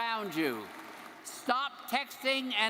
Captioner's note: audience applauding